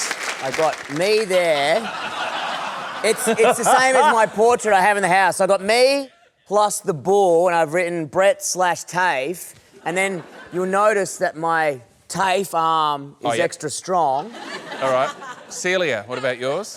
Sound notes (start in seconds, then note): 1.6 laughter